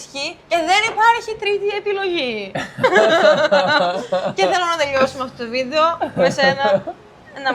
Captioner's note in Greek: γέλια